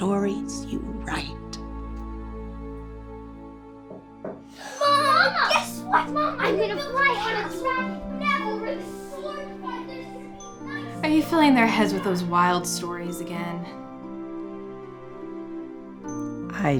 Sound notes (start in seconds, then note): 4.8 excited yelling